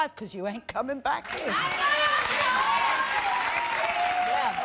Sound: applause

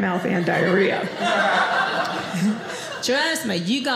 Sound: audience laughing

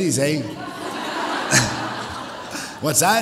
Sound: audience laughs

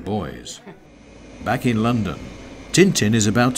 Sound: man chuckles; jet whirring

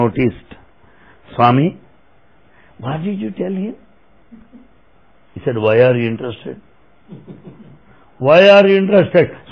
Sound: laughter

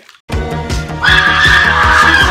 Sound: high-pitched screaming

